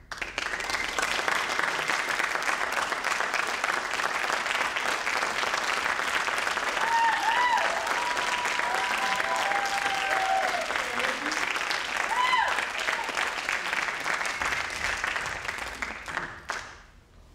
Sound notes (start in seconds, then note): 0.2 audience applauds; 6.4 audience cheers